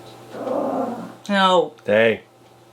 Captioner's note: Daisy growls